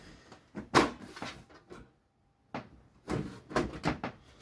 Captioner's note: side panel removing sound